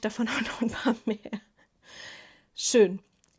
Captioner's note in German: Gelächter